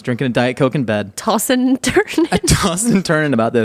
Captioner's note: laughing